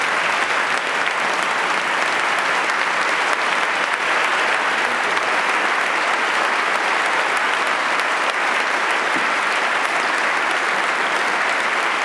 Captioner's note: applause